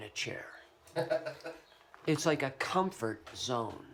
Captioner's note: laughter